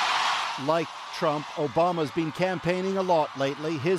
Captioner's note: cheers and Applause